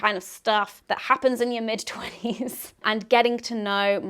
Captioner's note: chuckles